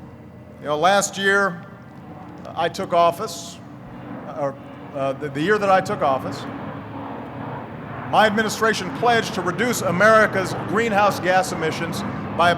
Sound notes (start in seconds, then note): none